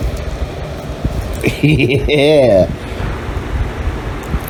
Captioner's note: Ella laughs